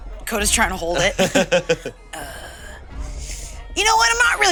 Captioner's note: all laugh